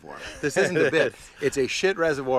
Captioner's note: laughs